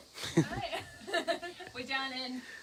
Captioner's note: laughing